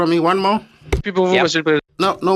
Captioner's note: speaking French